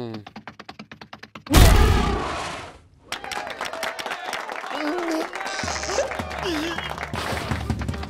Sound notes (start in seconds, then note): 1.4 growl, stomp; 3.0 cheers and applause; 4.1 whimper; 4.7 groan